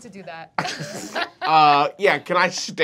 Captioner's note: laughing